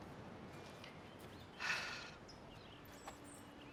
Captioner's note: sighs